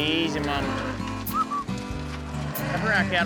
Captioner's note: mooing; whistles